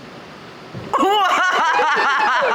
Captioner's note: tree thuds; people exclaim; people laughing